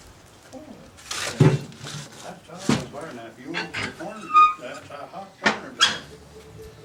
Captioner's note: chatter